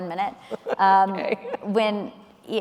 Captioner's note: laughing